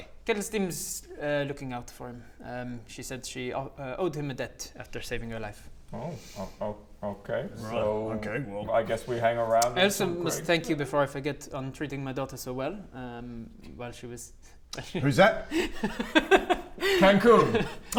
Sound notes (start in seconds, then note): 15.4 unsurprised giggles